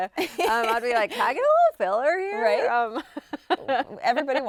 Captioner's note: chuckles